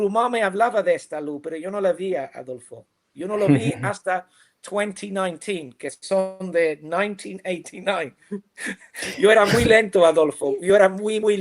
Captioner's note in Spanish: risas